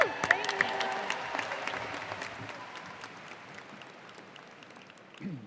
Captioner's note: cheers and applause